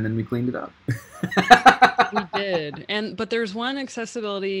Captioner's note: laughing